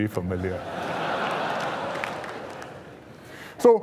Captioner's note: laughter